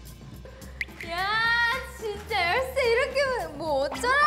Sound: plop

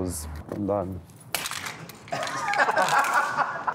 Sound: device cracks; laughing

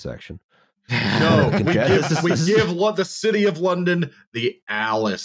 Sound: laughter

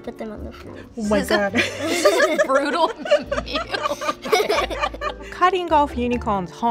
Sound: laughs

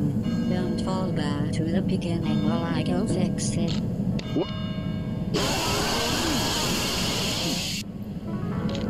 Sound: screaming bat noises

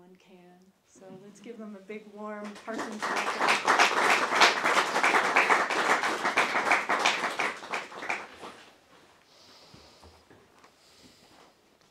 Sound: applause

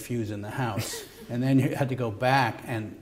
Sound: laughter

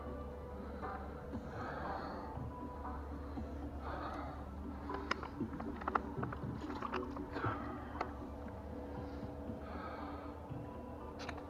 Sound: breathing

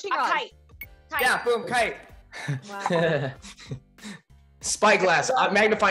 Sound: bell dings

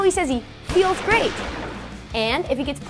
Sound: guns firing

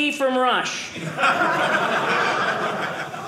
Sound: audience laughing

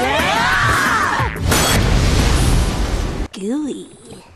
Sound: yelling; explosion

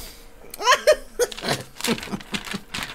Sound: squeals Of Delight

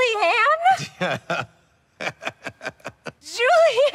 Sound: laughing

